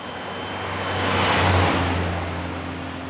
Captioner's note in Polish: dźwięk przejeżdżającego samochodu